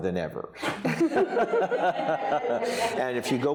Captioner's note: all laughing